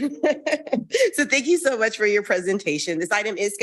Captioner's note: laughs